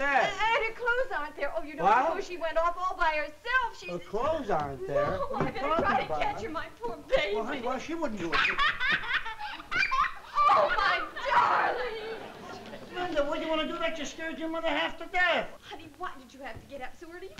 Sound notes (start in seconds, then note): 8.1 terry giggling